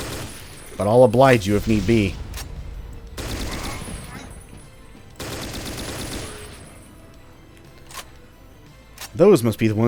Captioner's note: M16 continues